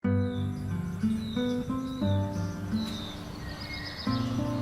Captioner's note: birds singing